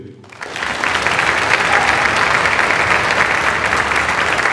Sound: audience applauds

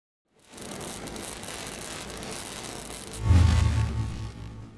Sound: tool buzzing

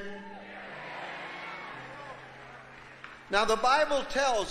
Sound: congregation cheering

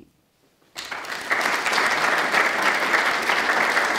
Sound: applause

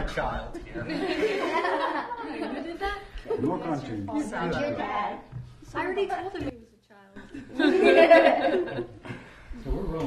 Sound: laughter

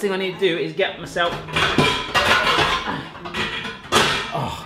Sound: dishes clattering

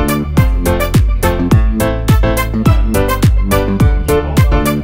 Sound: light background conversation; electronic house music

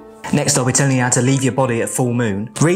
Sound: none

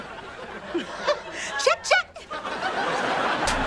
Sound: laughs

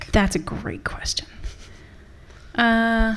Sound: laughing

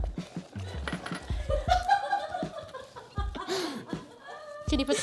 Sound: laughing

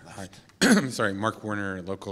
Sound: cough

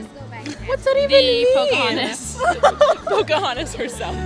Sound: laughing

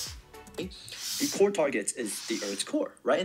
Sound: recorded Voice

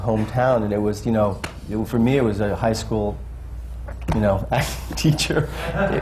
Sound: laughs

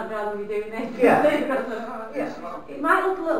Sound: laughing

